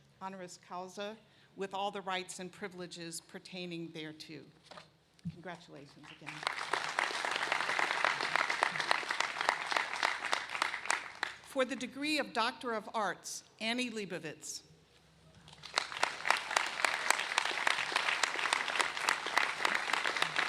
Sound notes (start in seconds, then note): 9.0 applause